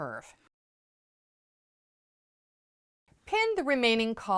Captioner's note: no Sound Present